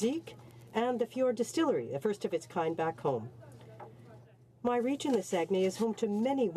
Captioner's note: speaking French